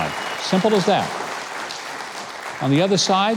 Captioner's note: applause